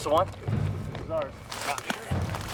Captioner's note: voiceover